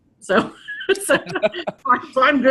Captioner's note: both laughs